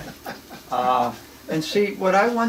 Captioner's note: laughs